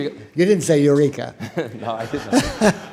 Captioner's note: laughter